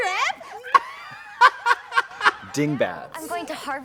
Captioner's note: Trixie laughs